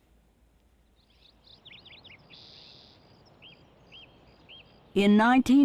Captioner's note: birds chirping